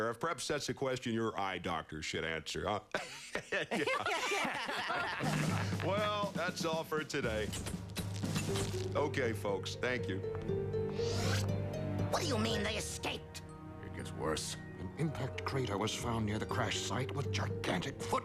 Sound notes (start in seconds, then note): 3.0 laughs; 3.0 all laugh